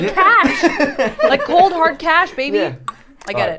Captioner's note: laughter